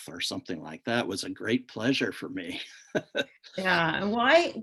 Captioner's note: laughs